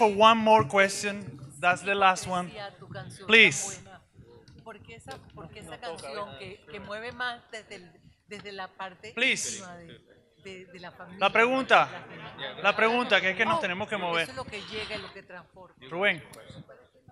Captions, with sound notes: - Okay. - So we only have time for one more question. That's the last one. Please (audience member speaks in Spanish) Please. (speaks in Spanish)